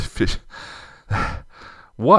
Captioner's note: sigh